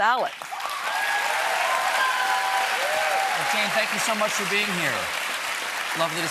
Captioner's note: cheers and applause